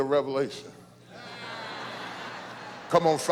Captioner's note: laughter